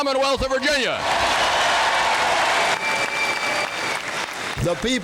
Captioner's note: audience cheering; audience applauding